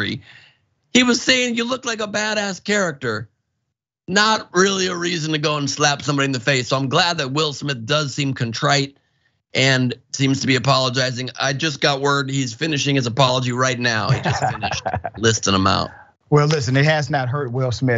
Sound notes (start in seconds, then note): 14.0 laugh